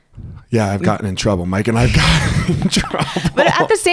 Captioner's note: laughs